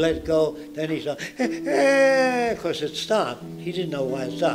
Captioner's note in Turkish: ağlama sesleri